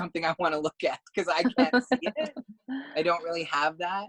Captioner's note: laugh